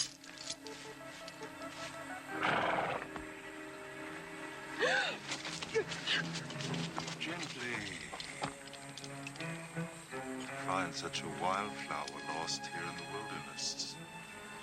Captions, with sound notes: (chains rattling) (Carrie gasping) - Gently. (dramatic music) To find such a wildflower lost here in the wilderness.